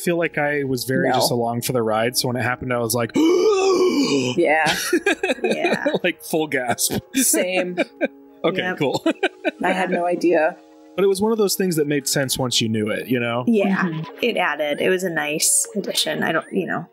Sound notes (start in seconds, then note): 2.9 surprised noises